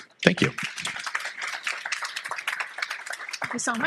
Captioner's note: applause